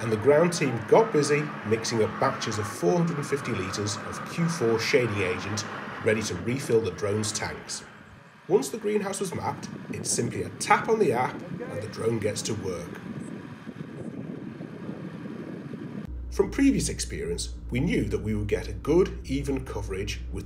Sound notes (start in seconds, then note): 13.6 machines rattling; 13.6 wind blowing; 16.3 drone humming